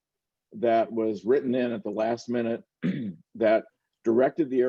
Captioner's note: clears throat